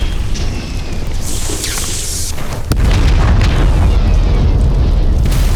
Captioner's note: explosion rumbling